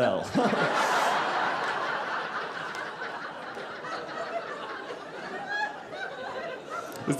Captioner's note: audience laughing